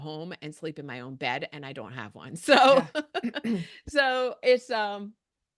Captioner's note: chuckles